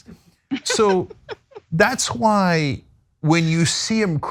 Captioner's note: laugh